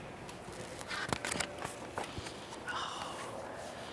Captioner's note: paper rustling